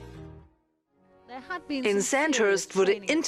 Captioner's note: voiceover